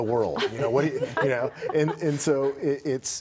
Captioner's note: laughter